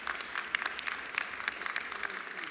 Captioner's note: applause